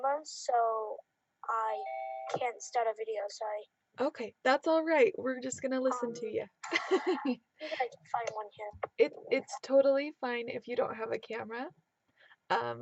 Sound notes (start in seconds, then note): 6.6 laughing